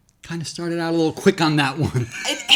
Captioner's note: laughs